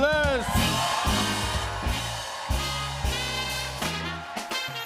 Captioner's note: cheers and applause